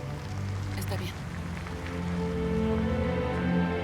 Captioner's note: car engine revs